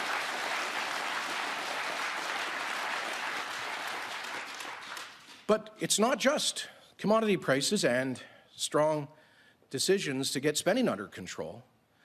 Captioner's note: cheering and Applause